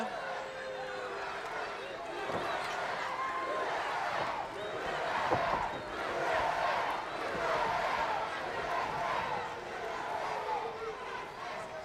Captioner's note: crowd cheering